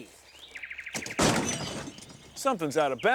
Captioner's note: thud